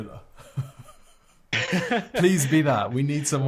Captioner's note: laughing